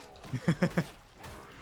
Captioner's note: laughter